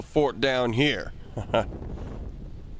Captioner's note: laugh